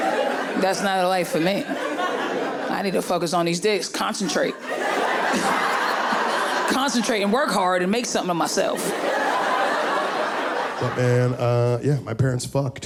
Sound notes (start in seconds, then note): 2.0 laughing; 6.2 audience laughing